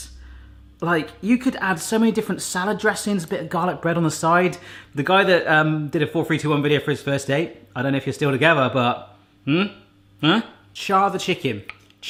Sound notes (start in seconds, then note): none